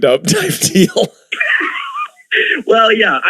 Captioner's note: gasping for air